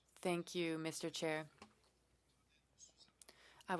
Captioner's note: speaking French